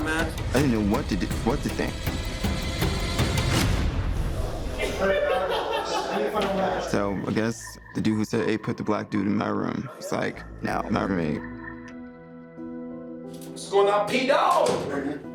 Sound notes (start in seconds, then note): 2.1 dramatic music; 4.7 inmate laughs